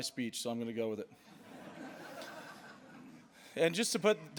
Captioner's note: laughter